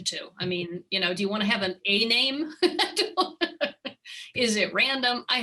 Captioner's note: chuckles